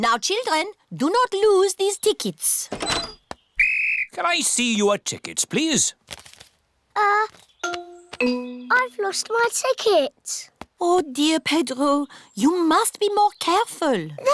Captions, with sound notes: Now, children, do not lose these tickets. -(BLOWS WHISTLE) -Can I see your tickets, please? Uh... I've lost my ticket. Oh, dear, Pedro, you must be more careful.